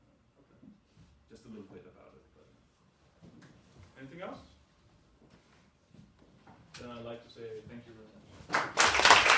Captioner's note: applause